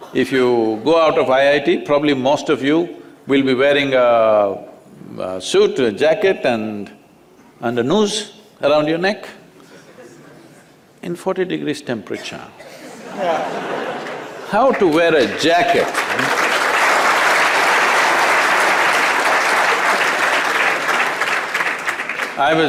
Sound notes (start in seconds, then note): 12.7 laughter; 19.6 applause